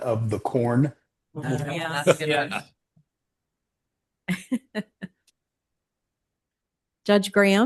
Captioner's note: laughter